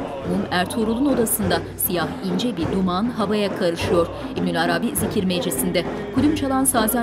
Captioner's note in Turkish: Dua sesleri